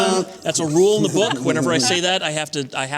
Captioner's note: laughter